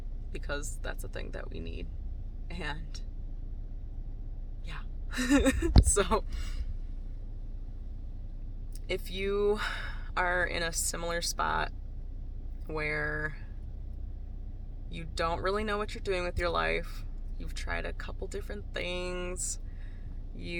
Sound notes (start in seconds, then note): 5.2 laughs